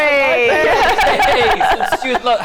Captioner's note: laughter